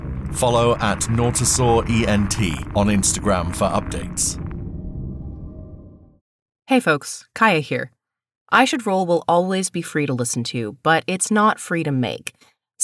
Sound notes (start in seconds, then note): none